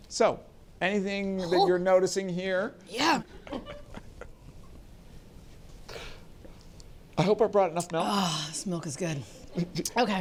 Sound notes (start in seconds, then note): 4.8 laughs